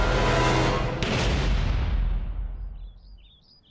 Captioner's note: gunshot